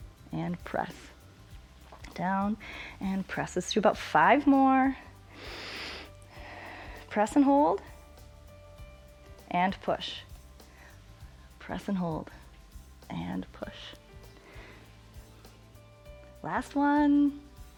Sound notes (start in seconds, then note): 5.1 exhales; 5.2 inhales